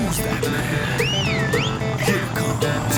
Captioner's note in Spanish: Silbidos